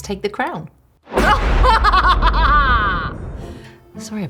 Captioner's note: manic laughing